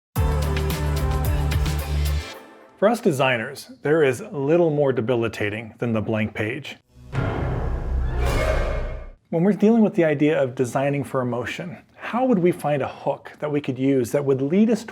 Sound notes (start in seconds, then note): 0.1 upbeat music; 6.9 logo whooshing